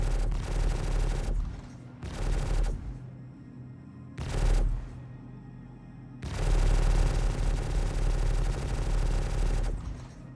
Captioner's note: gun fires; gun fires